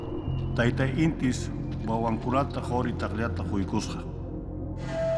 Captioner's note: speaking Quechua